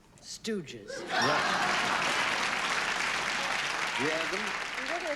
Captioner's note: cheers and applause